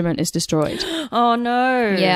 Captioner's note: gasps